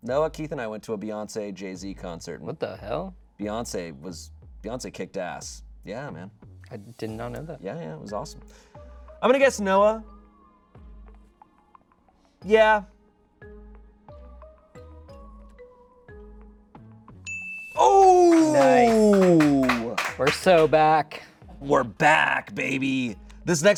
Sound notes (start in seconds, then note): 13.0 light music; 17.2 bell dings